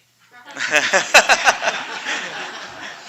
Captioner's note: laughter